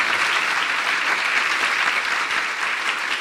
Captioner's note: Applaudissements